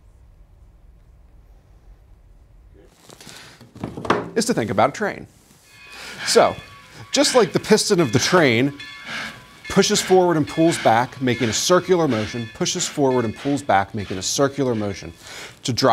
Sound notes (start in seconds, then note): 6.4 train sounds